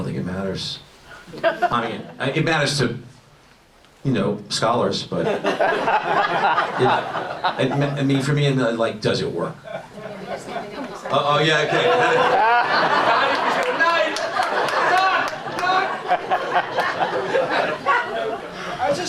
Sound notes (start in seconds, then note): 5.2 audience laughs; 13.8 audience laughs